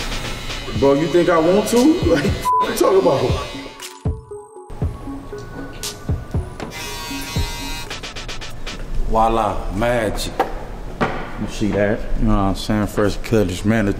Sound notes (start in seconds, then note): 6.4 shaver whirring; 6.7 upbeat hiphop music